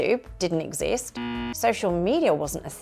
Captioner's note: buzzer